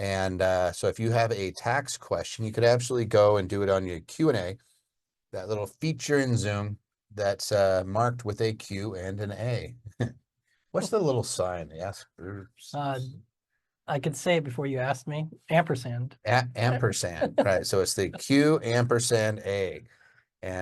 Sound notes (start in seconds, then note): 9.8 chuckles